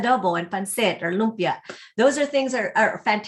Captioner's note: speaking foreign language